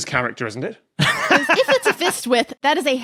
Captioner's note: laughs heartily